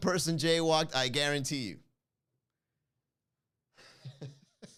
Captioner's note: laugh